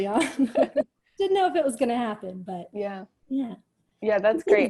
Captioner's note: chuckles